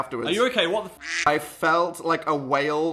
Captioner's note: quack